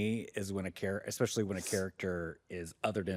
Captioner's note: sniffles